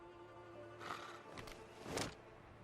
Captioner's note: zombie scoffs